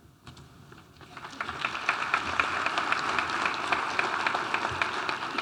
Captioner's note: audience applauding